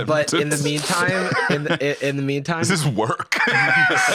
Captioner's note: laughing